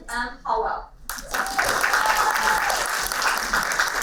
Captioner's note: applauding